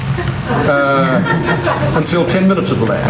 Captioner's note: everyone laughs